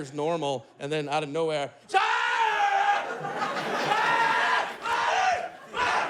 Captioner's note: screaming